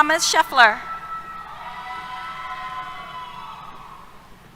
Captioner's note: cheers